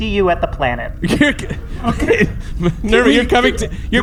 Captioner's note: Pleck and C-53 protesting, half laughing